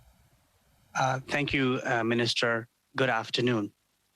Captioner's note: speaking French